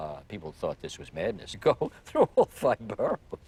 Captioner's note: laughing